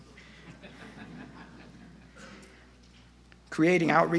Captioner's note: audience laughter